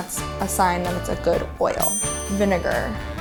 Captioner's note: ding